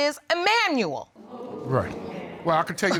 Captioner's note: audience exclaiming